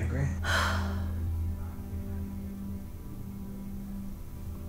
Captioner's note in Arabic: تتنهد